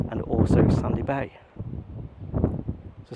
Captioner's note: none